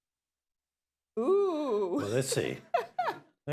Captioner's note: laughs